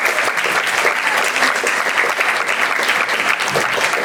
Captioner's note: applause